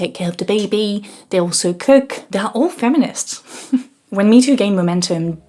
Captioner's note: laughs